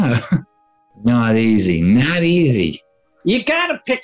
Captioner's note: american accent; edward g. robinson/ chicago gangster accent